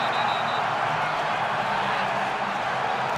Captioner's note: whistling